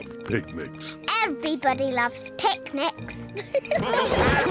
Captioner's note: all giggle; quacking